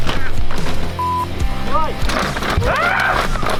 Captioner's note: rock music; beep